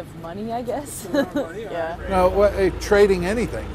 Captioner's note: laugh